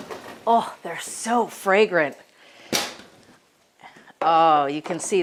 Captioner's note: oven door thuds